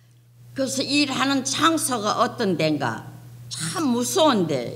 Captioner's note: speaking foreign language